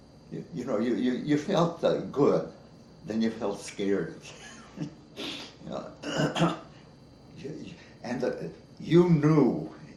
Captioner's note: chuckles